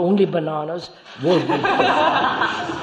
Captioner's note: laughter